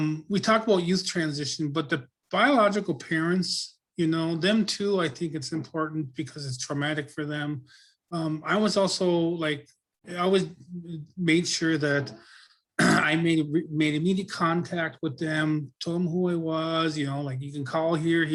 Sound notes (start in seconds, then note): 12.8 clears throat